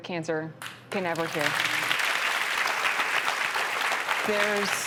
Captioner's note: audience claps